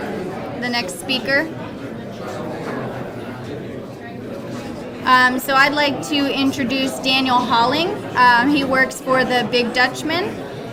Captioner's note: audience noise